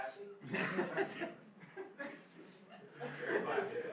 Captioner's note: laughing